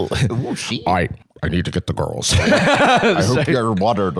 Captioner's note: laughs